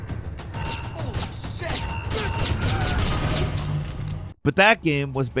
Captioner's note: screams